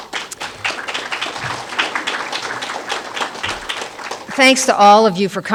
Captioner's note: applause